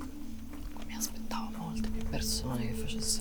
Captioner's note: whispered